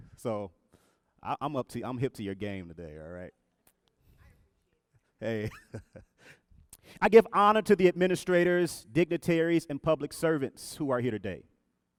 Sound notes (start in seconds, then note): 4.5 woman speaking faintly; 6.0 laughs